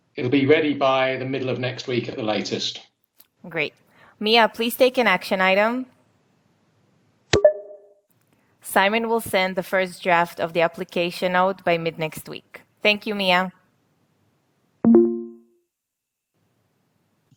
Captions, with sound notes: - It'll be ready by the middle of next week at the latest. - Great. Mia, please take an action item. (dings) Simon will send the first draft of the application note by mid next week. Thank you, Mia. (dings)